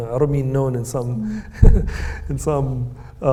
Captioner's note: Hisham chuckles